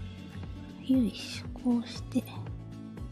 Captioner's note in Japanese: 小声で